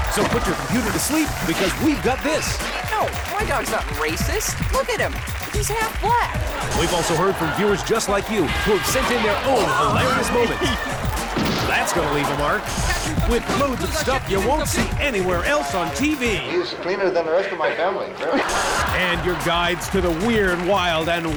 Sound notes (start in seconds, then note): 17.8 audience laughs